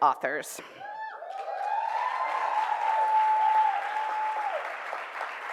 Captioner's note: cheers and applause